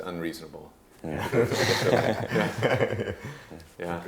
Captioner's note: group laughing